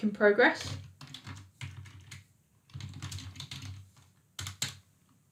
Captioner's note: keyboard clicking